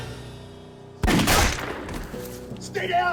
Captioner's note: dramatic music; gunshot blasts